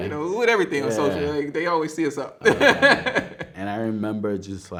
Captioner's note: laughs